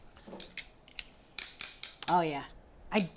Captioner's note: tongs clack